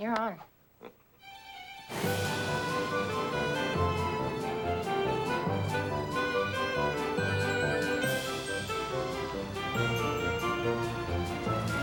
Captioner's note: chuckles